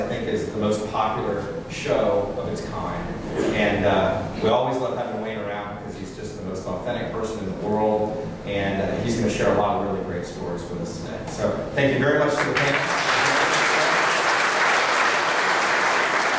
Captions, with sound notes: cars, I think, is the most popular show of its kind. And we always love having Wayne around because he's just the most authentic person in the world and he's gonna share a lot of really great stories for us today. So thank you very much-- (applause)